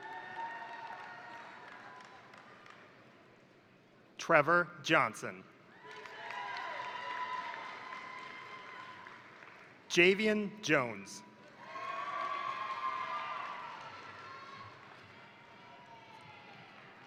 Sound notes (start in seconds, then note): 0.0 crowd cheering; 0.0 crowd applauding; 5.7 crowd cheering; 5.7 crowd applauding; 11.5 crowd cheering